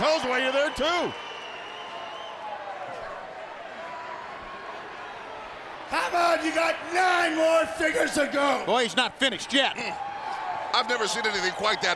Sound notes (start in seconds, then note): 1.9 crowd chatter